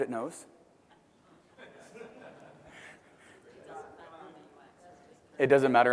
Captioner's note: laugh